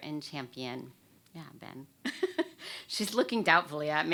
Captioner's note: chuckles